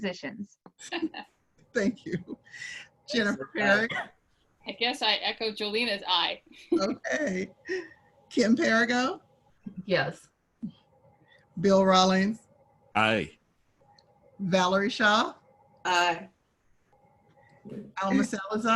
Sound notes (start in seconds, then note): 0.8 laughter; 6.6 laughing